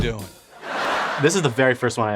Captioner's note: crowd laughing